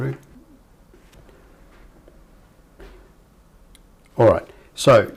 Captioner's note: silence